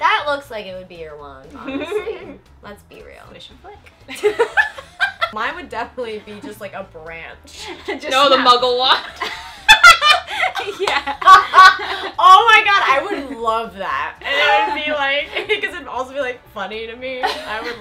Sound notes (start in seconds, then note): 4.2 laughing; 9.1 laughing